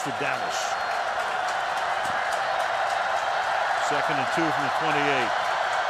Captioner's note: cheering